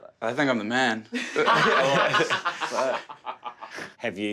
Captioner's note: laughing